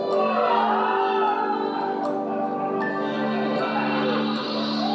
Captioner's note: weird yelling outside of the panel room